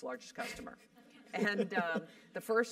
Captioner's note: laugh